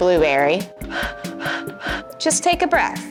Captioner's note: Blueberry hyperventilating